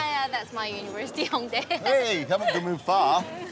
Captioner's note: giggles